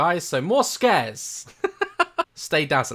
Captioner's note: chuckles once again